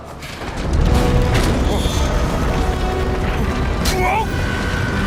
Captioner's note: loud rumbling